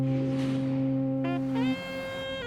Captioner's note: fog horn blowing